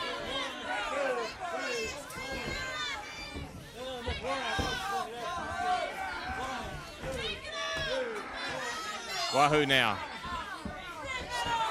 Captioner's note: crowd chatter